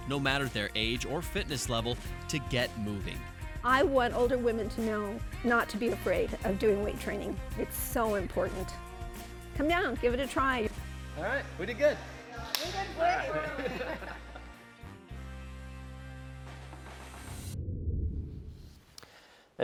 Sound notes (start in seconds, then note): 13.0 laughing; 15.1 lighthearted music fades